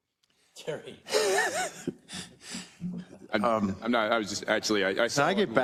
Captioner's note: laugh